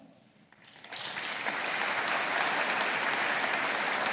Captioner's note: audience applauding